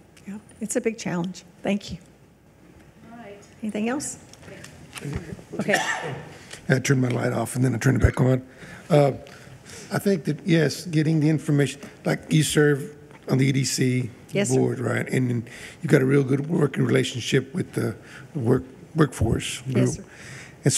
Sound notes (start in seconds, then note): 4.6 regent speaking faintly